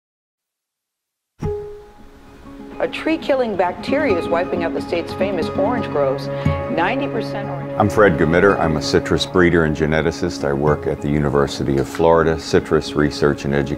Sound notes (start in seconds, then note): 6.6 audio fading out